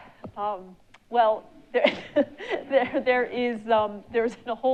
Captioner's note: laughs